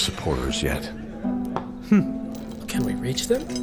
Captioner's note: sigh